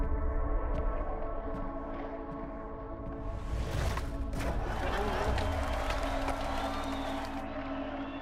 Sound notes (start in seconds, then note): 4.4 crowd cheering; 4.4 laughter, chattering